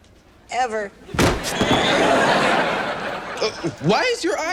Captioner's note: audience laughs